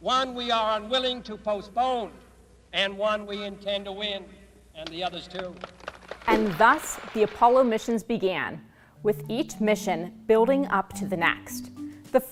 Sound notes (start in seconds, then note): 5.3 crowd claps